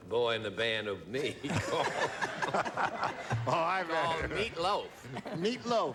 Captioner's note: chuckles